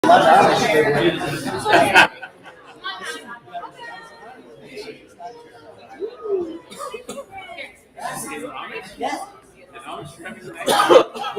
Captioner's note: chatter